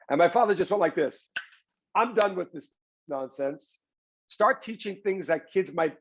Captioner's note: claps hands